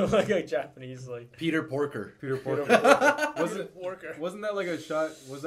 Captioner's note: laughs